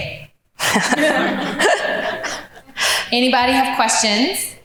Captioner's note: laughing